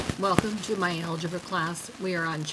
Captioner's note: voiceover